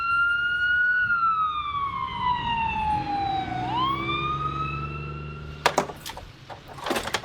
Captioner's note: sirens wail